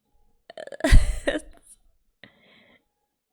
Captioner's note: laughs